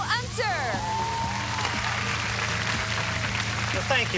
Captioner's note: applause